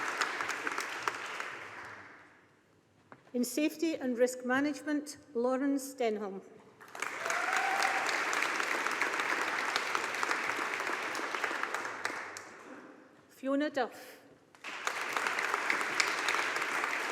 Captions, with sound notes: In Safety and Risk Management. Lawrence Denholm. (AUDIENCE APPLAUDING) Fiona Duff. (AUDIENCE APPLAUDING)